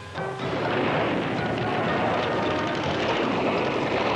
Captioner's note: guns firing